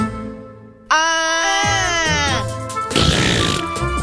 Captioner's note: yelling